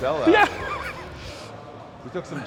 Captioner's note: laughs